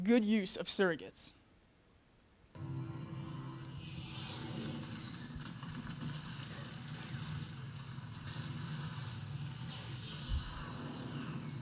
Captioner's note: battle Sounds